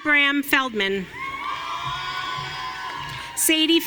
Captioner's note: audience cheering